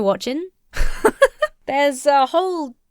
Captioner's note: laughs